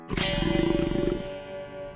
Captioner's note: growling